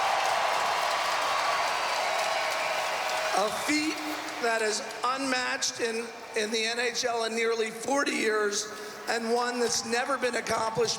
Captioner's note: cheering and Applause